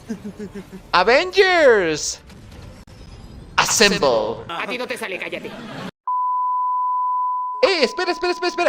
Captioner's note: beep